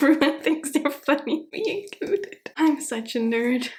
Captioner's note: laughing